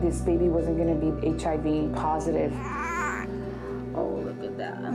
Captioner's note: cries